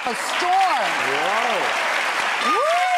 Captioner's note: applause